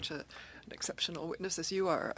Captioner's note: speaking French